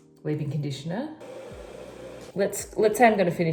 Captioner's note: hair dryer blowing